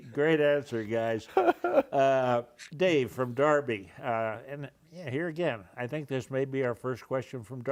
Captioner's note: laughter